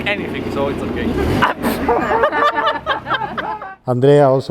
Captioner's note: group laughing